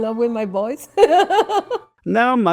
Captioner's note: laughs